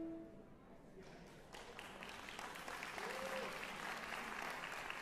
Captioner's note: applause